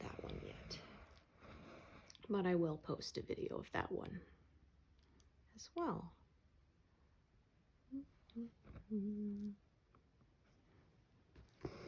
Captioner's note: hums